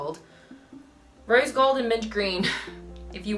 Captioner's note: chuckle